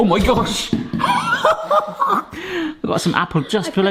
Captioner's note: laughter